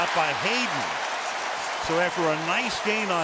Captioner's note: cheering